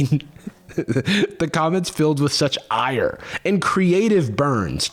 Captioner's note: laughing